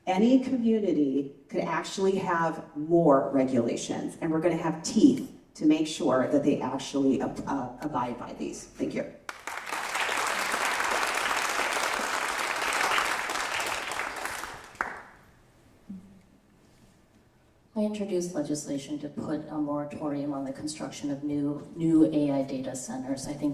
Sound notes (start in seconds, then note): 9.2 applause